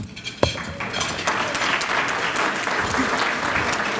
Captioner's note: applause